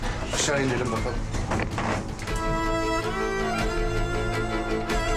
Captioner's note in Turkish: none